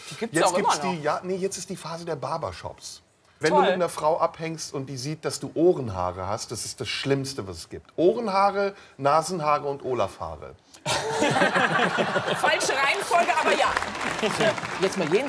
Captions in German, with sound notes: Jetzt ist die Phase der Barber-Shops. Wenn du mit einer Frau abhängst und die sieht, du hast Ohrenhaare, dann ist das das Schlimmste, was es gibt. Ohrenhaare, Nasenhaare und Olafhaare. *Lachen* Falsche Reihenfolge, aber ja.